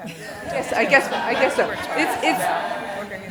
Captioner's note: laughing